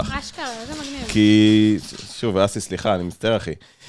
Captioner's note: mocking tone